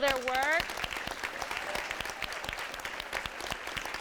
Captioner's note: all clapping